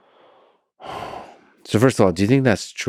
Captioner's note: Lex sighs